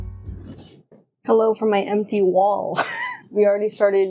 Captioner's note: laughs